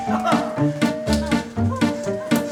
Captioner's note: all yelling